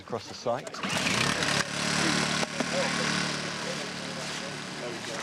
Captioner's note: machine buzzing